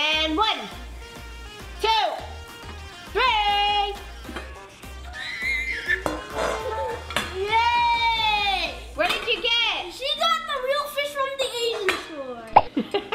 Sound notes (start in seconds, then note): 5.1 screams